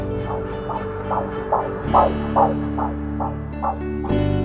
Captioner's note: heartbeat